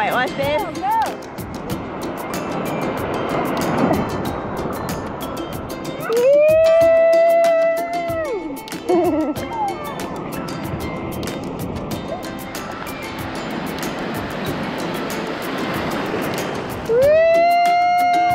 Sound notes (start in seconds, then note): 3.2 soft music; 15.2 ocean sounds